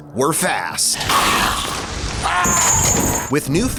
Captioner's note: growling